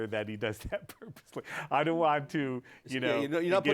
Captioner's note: laughs